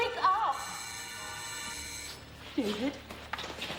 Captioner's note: doorbell buzzes